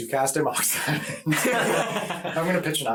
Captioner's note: all laugh